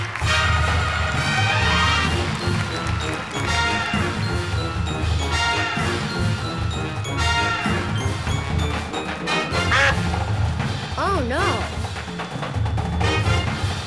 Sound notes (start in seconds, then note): 9.5 quacking